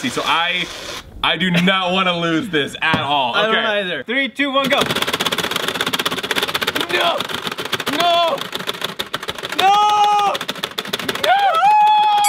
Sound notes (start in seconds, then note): 4.6 game clacking